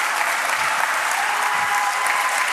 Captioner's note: applause